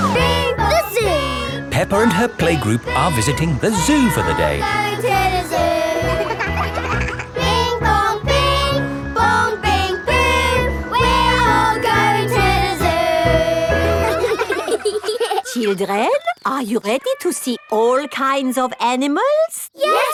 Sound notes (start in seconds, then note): 6.0 giggling; 7.7 all singing; 13.7 children laughing